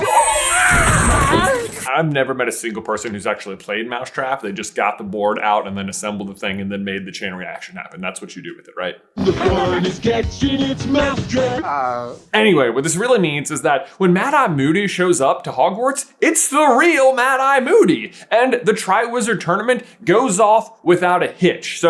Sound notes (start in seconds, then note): 0.0 pathetic screams; 11.4 pathetic groans